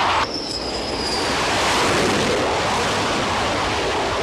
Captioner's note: landing plane